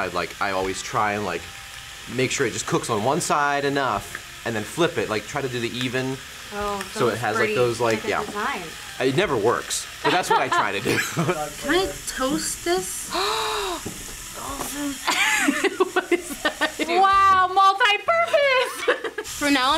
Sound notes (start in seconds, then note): 13.1 gasps; 15.0 laughs; 18.8 laughs